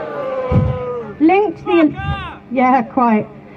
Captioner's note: crowd